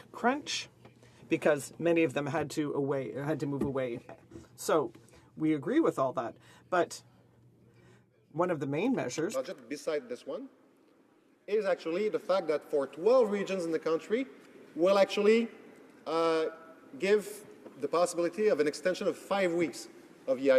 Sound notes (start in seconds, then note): 9.9 speaking French